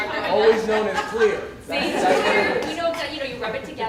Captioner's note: laughter